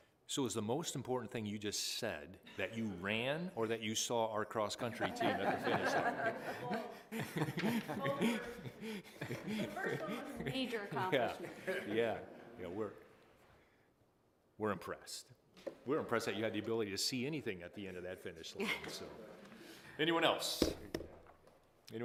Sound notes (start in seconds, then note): 6.5 laughter